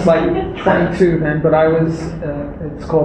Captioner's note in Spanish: risas